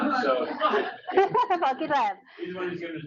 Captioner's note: laughing